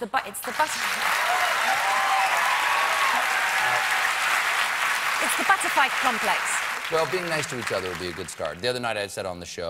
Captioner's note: applause